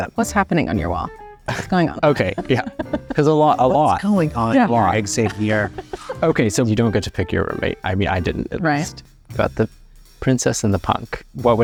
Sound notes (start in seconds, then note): 1.5 chuckles; 1.5 laughs; 4.3 chuckles